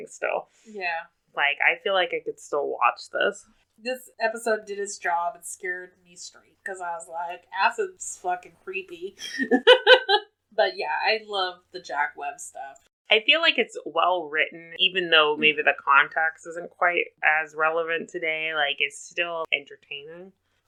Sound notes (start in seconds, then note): 9.2 laughs